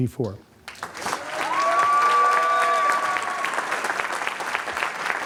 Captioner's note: applause, cheering